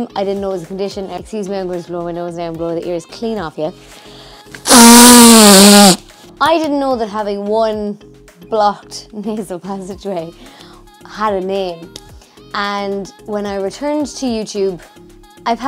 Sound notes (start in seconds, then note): 4.6 nose blowing